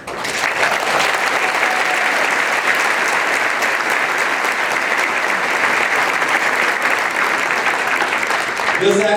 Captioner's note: applause